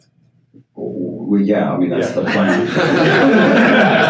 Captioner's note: audience laughs